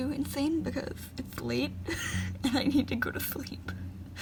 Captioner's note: laughing